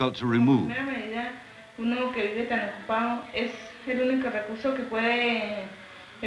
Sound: speaking Spanish

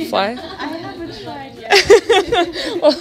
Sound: laughs

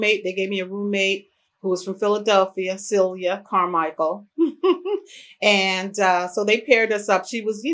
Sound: laughs

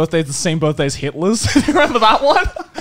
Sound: men laughing

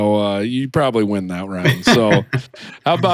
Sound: laughs

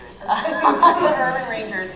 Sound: laughter

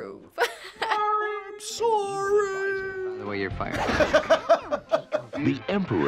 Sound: laughs

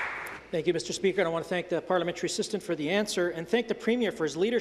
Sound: some Applause

